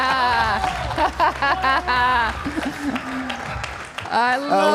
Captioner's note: laughs; audience applauding